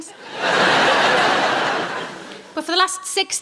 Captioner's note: laughing